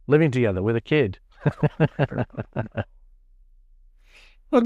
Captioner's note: laughs